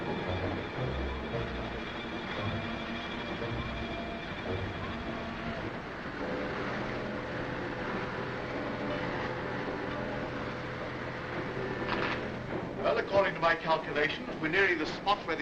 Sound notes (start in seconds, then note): 1.0 machinery clanking